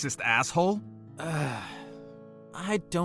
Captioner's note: sighs